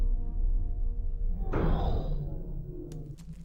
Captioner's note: click